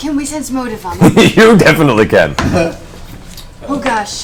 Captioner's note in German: lacht